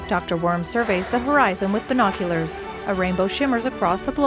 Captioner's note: uplifting music; water blasting